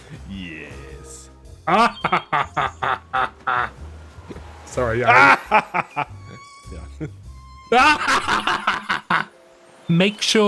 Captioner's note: evil Chuckle; evil Laugh